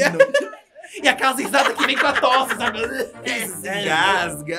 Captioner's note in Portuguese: imita tosse